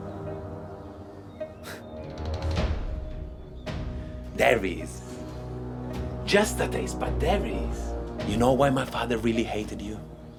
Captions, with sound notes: (laughing) There he is, just the taste, but there he is. You know why my father really hated you?